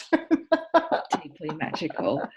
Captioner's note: laughing